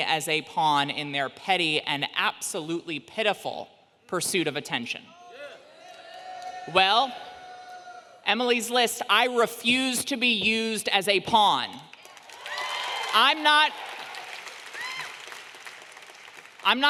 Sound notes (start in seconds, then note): 5.4 audience booing; 11.9 audience clapping and cheering